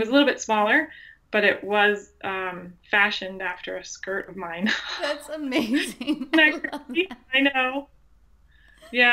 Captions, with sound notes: It was a little bit smaller, but it was fashioned after a skirt of mine. - That's amazing. (laughs) - I know.